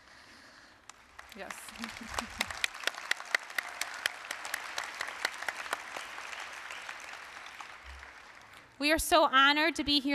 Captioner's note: applause